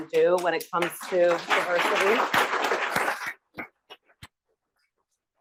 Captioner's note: audience applauds